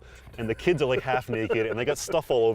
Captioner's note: laughter